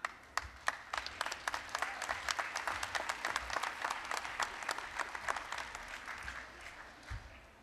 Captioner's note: applause